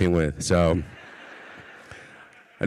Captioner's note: audience laughs